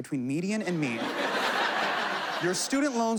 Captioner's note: laughter